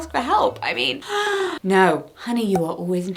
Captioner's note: gasps